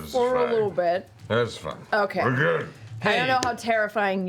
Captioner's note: slurred